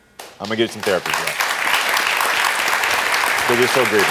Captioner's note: audience cheering